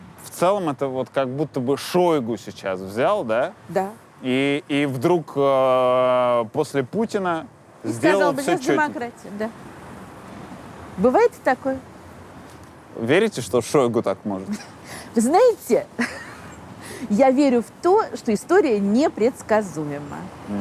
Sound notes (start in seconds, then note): 16.0 laughs